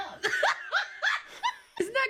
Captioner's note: mom laughs